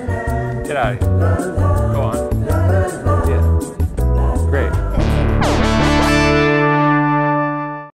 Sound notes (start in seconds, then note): 0.0 upbeat music; 4.9 sound effects